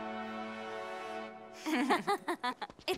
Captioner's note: laughing